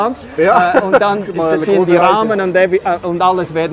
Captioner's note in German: lacht